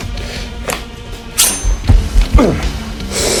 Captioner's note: knife unsheathes; heavy breathing